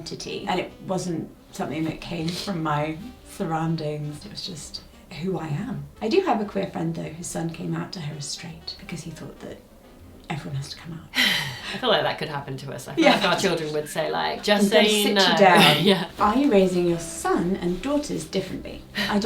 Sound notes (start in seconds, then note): 11.2 chuckles